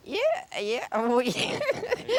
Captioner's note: laughs